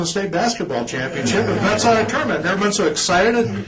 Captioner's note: laughter